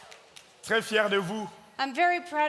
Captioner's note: audience cheering and clapping; speaking in French